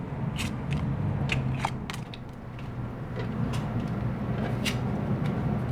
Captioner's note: cards scrape against table